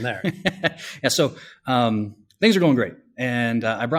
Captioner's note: laughs